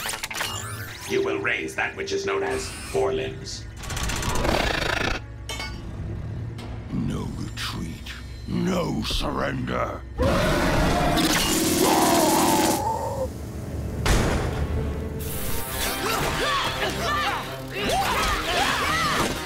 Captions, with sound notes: You will raise that which is known as forelimbs. No retreat. No surrender. [roaring] [grunting]